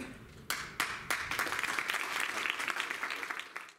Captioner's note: applause